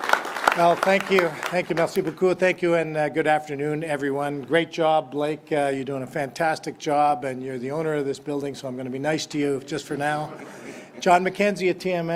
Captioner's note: applause